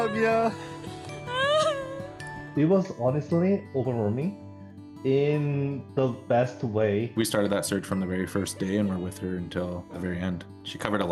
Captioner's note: crying